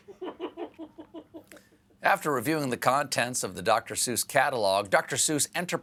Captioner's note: laughter